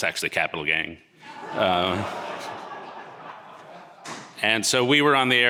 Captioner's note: audience laughing